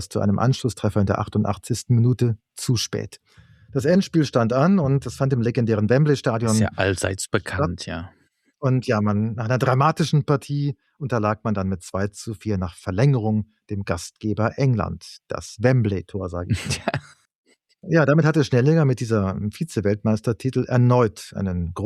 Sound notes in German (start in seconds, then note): 16.5 gelächter